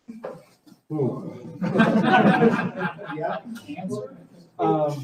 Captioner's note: audience laughing